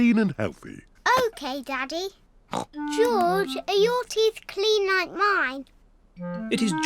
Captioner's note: snorts